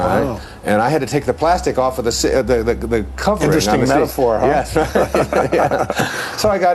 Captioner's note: laughter